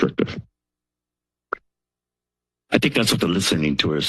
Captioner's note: silence